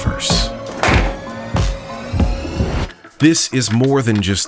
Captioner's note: intriguing music; metal door unlatching